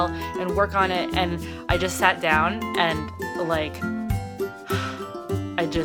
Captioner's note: exhales